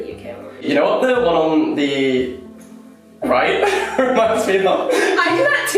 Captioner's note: laughs